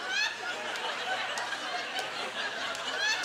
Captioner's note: audience laughter